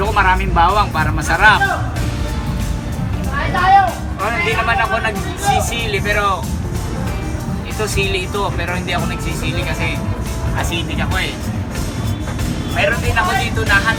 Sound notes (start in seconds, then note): 3.3 someone shouted